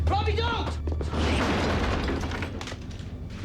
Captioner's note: slam